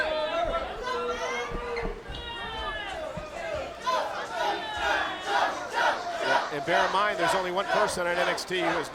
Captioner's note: crowd chatter